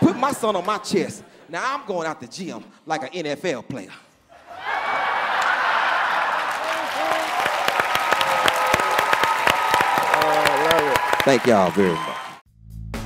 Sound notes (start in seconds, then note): 3.6 laughter; 6.8 cheers and applause